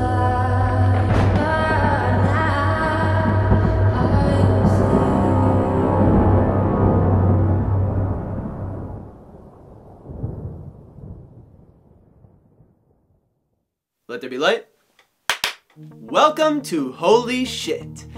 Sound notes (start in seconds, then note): 1.0 lightning, thunder; 15.3 clap-clap